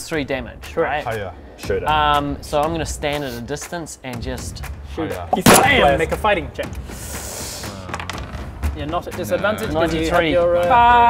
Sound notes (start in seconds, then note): 5.3 bam!